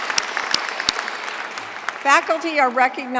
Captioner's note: applause